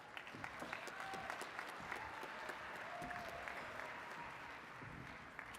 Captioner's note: attendees cheering and clapping